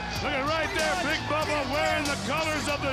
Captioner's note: crowd chatter